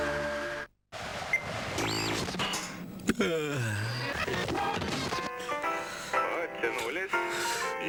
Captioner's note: creak; yawn